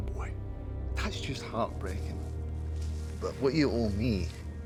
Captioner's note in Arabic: لهجة اسكتلندية